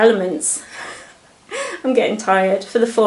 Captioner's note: giggles